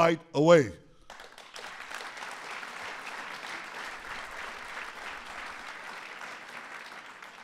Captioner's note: applause